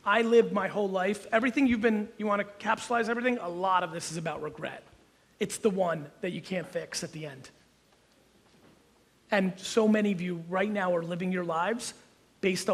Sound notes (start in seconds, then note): none